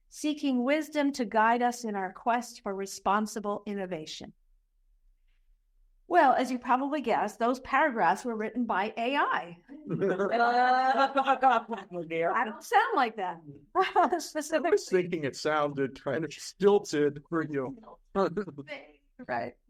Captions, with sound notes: seeking wisdom to guide us in our quest for responsible innovation. Well, as you probably guessed, those paragraphs were written by AI. (Laughter) Oh dear, I don't sound like that specifically. I don’t sound like that. I was thinking it sounded kind of stilted for you.